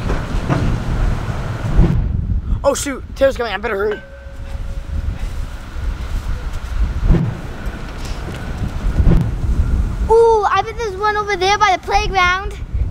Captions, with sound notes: - Oh shoot, Taylor's coming, I better hurry. (wood chips rustle) - Ooh I bet there's one over there by the playground.